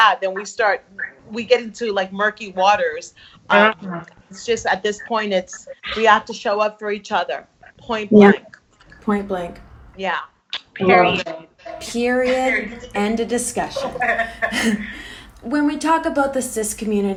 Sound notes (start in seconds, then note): 13.6 all laughs